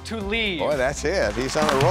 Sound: pat

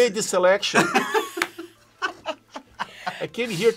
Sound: laughs

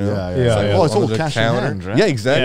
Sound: group chattering

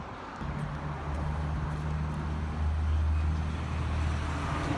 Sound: traffic passing

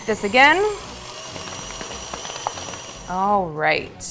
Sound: mixer whirring

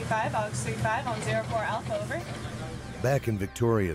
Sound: voiceover

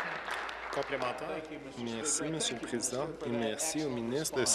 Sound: applause

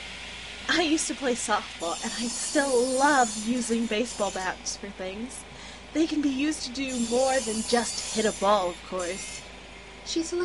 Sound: forklifts Beeping, Saws whirling, metallic hammering

